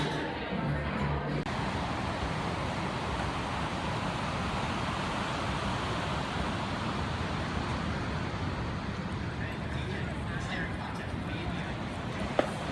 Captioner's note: street noise